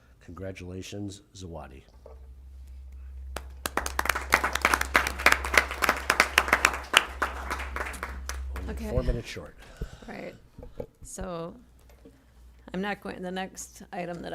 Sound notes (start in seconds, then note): 3.3 applause